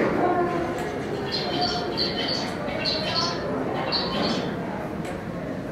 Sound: bird sounds

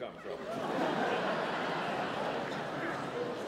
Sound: audience laughter

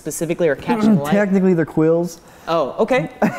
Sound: cough; laughing

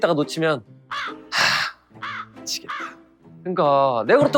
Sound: crow caw sound effect

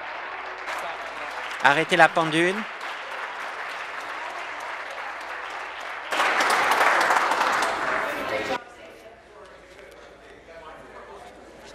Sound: applause

